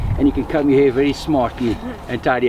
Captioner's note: short laugh